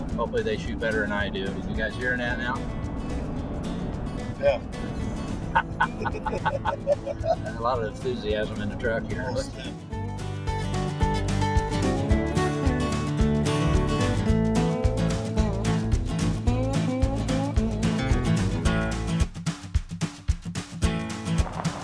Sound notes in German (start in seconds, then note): 5.5 Gelächter